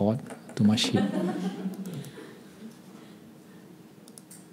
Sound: laughing

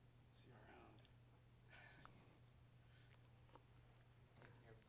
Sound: chuckles

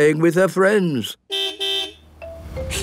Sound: car beep

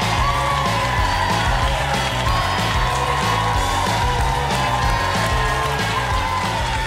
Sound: audience applauding; upbeat music playing

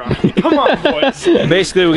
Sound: laughs

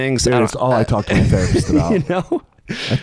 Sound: laughing

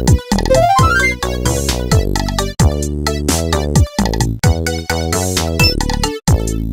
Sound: Dr. Sembei excited noises

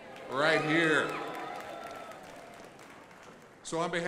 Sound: crowd applauding

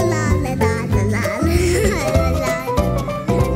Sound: chuckles

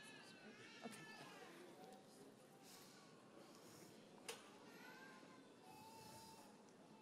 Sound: graduate speaking faintly

